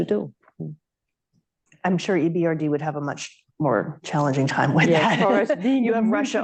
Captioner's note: laughs